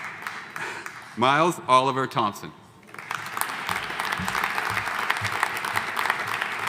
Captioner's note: audience applauding